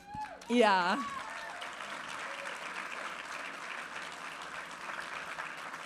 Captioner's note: audience applauding and cheering